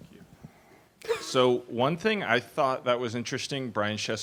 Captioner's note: voiceover